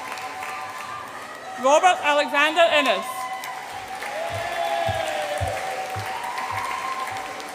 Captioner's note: audience applauds and cheers